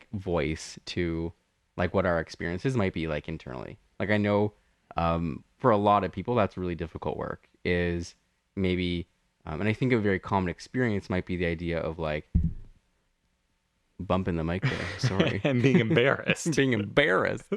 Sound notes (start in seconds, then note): 12.2 bumps mic; 14.6 laugh